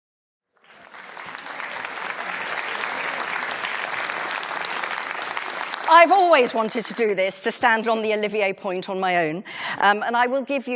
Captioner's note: applause